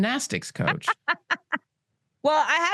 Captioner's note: laughs